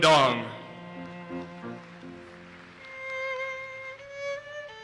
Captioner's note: audience applauses